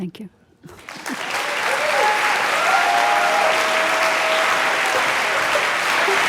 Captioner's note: audience cheering and applauding